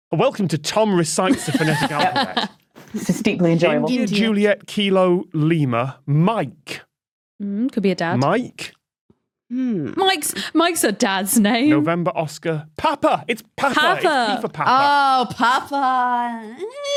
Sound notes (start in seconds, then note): 1.3 laugh